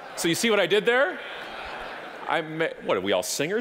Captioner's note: audience laughing